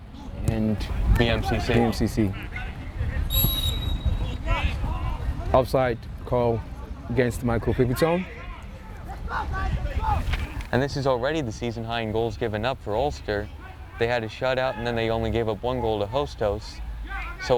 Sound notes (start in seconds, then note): 3.3 whistle tweeting; 3.7 players shouting